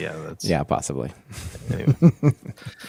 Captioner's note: laughter